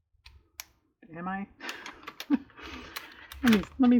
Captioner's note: laughs